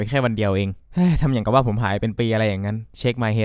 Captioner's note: sighs